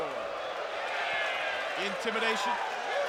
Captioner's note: crowd cheering